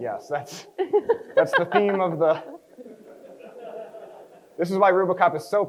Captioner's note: crowd chuckles